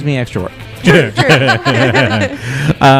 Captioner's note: laugh